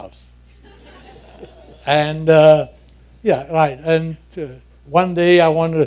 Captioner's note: laughter